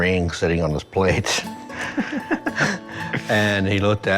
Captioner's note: both laughing